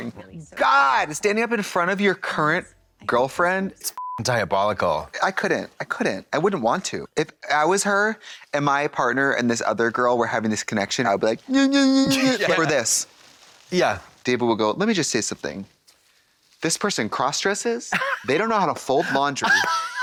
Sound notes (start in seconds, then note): 3.9 beep; 12.1 mutters